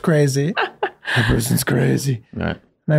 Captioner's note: laughing